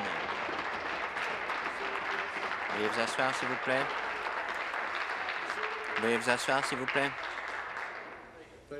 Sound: applause

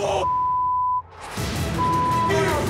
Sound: beep

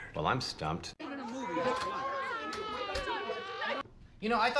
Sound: group chatter

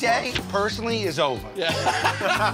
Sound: laughs

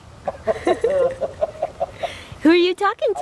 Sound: laughing

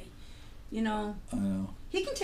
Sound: voiceover

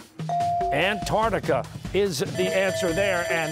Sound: bell ringing

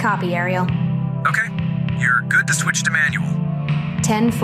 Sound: intercom

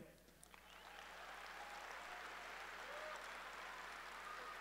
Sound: audience cheering

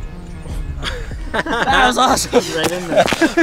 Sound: laughter

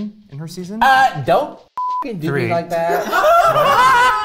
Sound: beep; everyone laughing

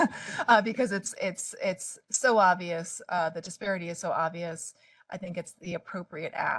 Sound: laughing

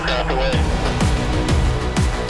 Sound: radio:"Aircraft Away!"

